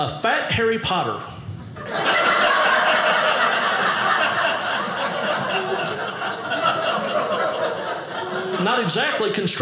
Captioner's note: audience laughing